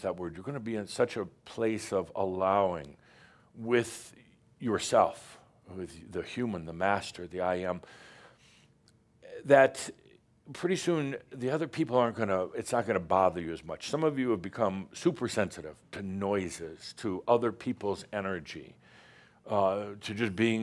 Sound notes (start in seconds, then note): none